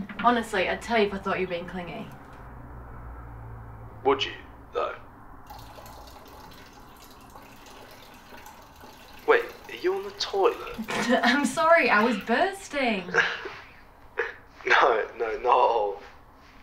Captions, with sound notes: Honestly, I'd tell you if I thought you were being clingy. Would you though? (urinating) Wait. Are you on the toilet? (Laughing) I'm sorry, I was bursting! (Laughing) No, not at all.